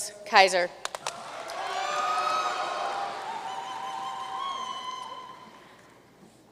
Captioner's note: audience cheering and applauding